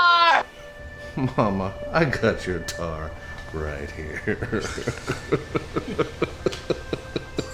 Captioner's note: laughs